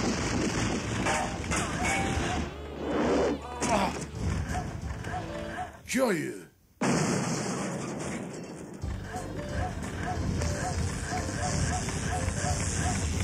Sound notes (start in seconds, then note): 0.1 metal clinking; 6.8 crashing; 9.5 zapping